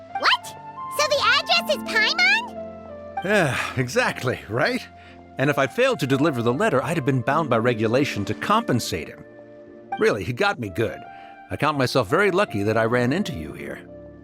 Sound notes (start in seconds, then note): 3.3 sigh